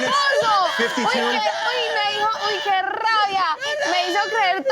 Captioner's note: screams with excitement